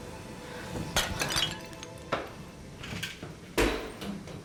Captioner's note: glass shattering